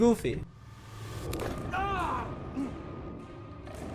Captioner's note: bones crack; man exclaims; tense music